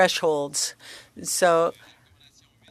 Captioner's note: speaking French